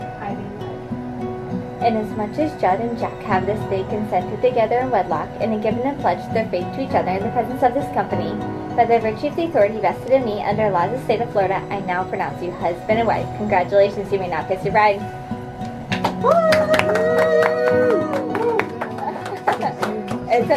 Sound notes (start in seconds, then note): 15.9 clapping; 16.0 whooping